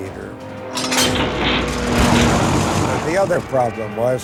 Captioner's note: metal clanks